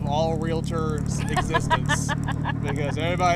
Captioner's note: laughing